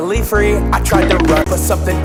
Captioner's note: cartoon run sound effect